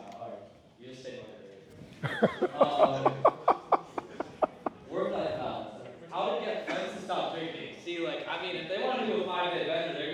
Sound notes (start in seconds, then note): 2.0 laughs